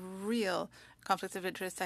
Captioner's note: speaking French